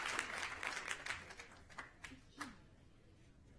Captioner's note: applause